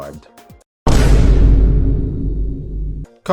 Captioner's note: Vine Boom Sound Effect